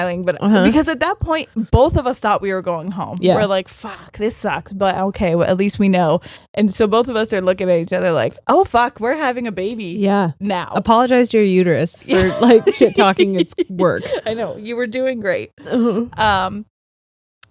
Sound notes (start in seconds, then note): 14.1 laughing